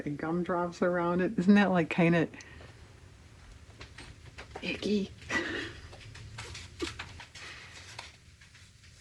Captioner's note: laughs